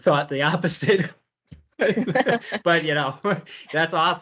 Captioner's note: laughter